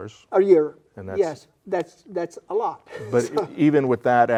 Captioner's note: laughing